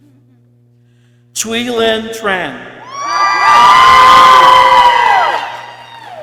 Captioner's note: people cheering